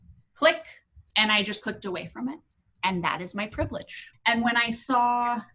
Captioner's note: click